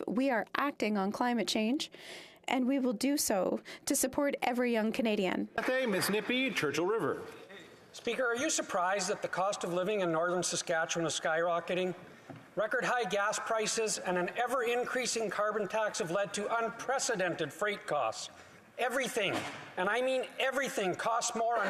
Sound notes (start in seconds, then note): 9.6 speaking French